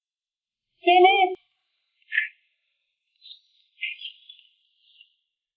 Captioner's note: speaking in foreign language